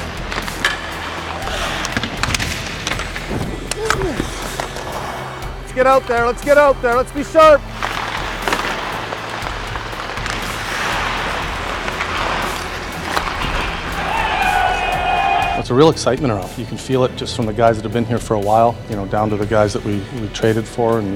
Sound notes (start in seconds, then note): 1.9 puck dings goalpost; 4.0 scraping against ice; 10.5 whoosh; 13.9 cheering